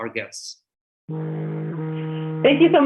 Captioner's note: phone buzzes